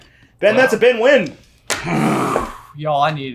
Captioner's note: groans